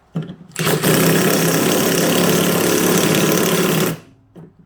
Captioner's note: drilling sounds